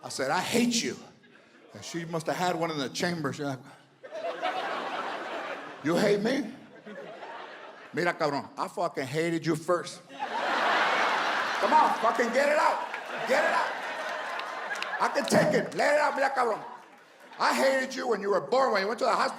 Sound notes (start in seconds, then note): 4.0 audience laughs; 10.6 audience laughs